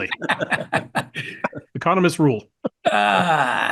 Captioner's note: laugh